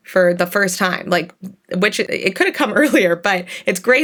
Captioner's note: chuckles